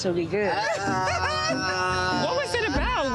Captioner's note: person laughing